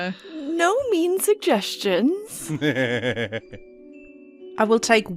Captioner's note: laughter